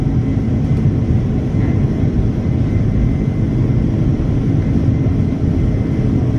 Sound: engine rumbling continues

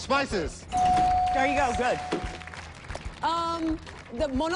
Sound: bell dings

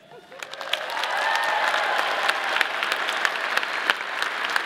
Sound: audience applauding

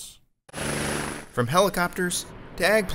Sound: helicopter blades whirring

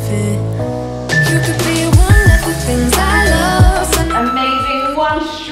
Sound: alarm beeping

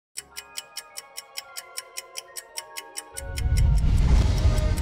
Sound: timer ticking

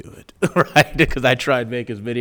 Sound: laughing

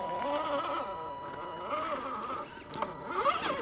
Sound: engine whining

